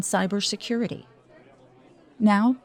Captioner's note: people chattering